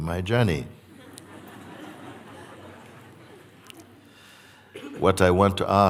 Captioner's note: laughter